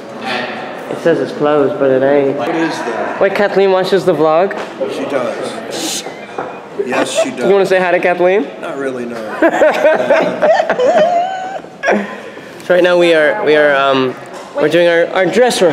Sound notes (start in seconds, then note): 6.8 laughs; 9.3 laughs